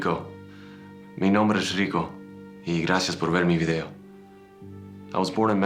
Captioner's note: speaking Spanish